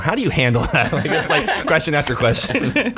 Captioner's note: laughing